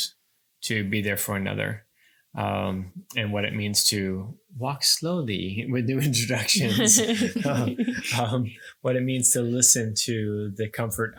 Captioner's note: laughing